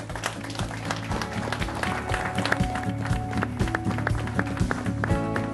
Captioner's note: applause